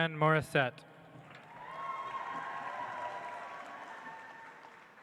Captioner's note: audience applauds